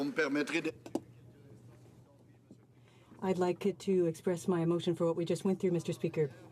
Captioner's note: some Applause